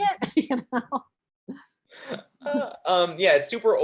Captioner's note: chuckling